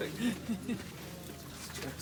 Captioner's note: laughing